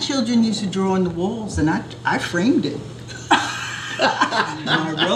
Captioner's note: laughter